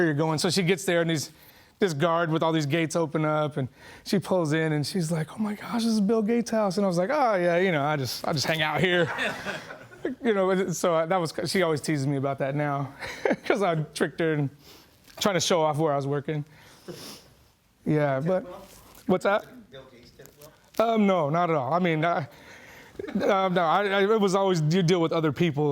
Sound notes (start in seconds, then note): 8.8 laughing